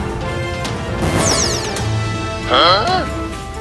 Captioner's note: laughs